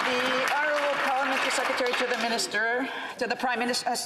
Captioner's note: some Applause